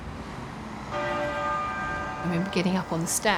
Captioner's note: bell tolling